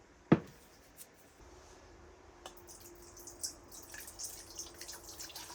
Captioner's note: pouring